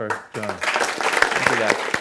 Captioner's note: applause